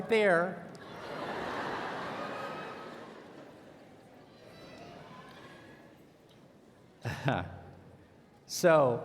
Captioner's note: laughter